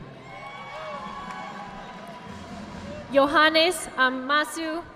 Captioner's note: audience clapping